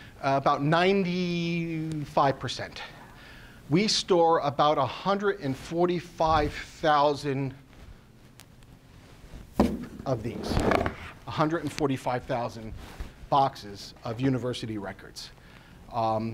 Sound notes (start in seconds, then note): 9.4 taps box; 10.3 box contents rattle